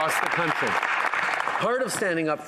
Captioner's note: applause